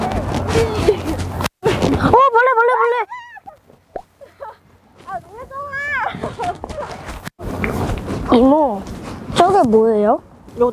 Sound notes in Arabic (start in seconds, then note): 3.0 صراخ; 6.1 ضحكة محرجة